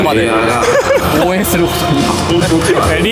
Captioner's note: laughs